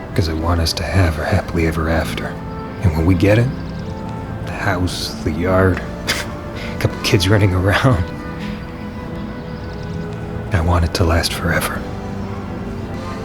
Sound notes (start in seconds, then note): 5.6 chuckles